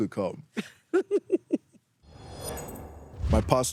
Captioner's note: laughs